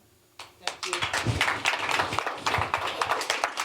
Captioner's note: applause